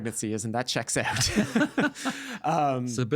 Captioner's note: both laughing